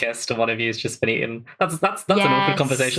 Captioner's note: laughing